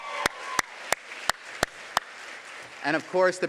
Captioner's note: applause